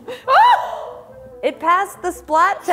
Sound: screams

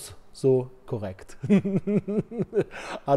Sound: laughter

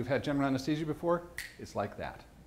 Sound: snaps fingers

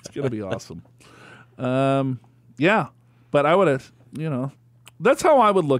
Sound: laughs

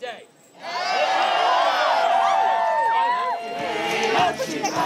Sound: cheering

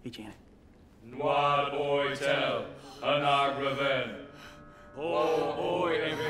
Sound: all chanting in foreign language

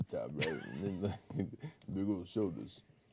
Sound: man chuckling

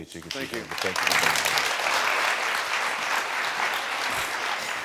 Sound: audience applauding

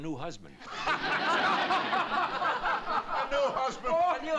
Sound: laughter

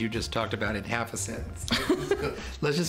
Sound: laughter

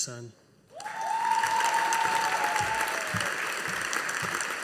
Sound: audience applauding

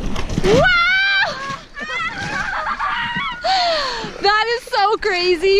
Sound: laughing

